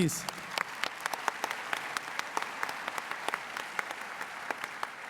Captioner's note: applause